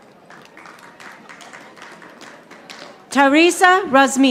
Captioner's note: audience applauding